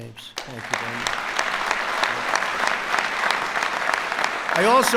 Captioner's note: applause